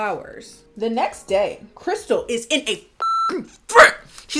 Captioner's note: beep